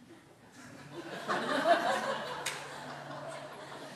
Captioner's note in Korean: 청중 웃음